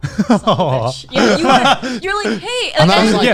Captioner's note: laughing